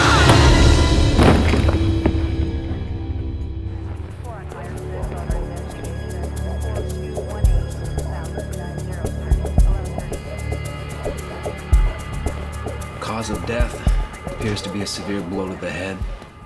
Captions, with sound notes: (Edna screaming) (police radio chattering) (dramatic music) - Cause of death appears to be a severe blow to the head.